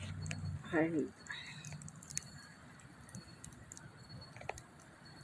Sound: sigh!

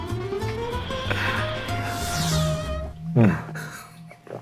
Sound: dramatic whooshing; laughing

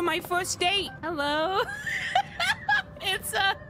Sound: laughter

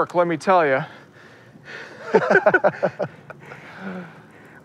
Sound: laughing

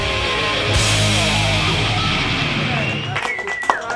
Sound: applause

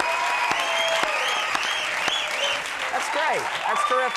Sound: audience keeps cheering

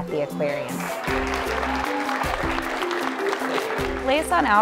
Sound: applause

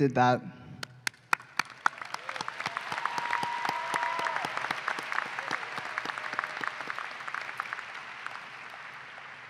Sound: applause

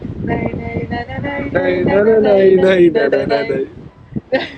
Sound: Humming- Pirates of the Caribbean

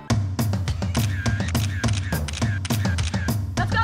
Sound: camera shutter sounds

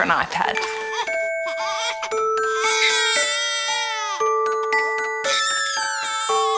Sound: baby continues crying

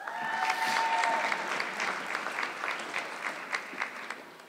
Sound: audience clapping

